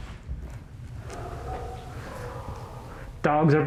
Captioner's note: dogs barking